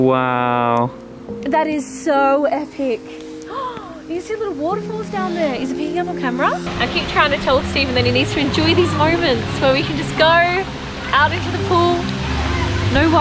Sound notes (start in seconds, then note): 3.4 gasps